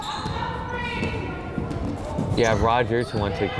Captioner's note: people yelling